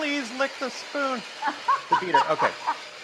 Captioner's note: Rachael laughs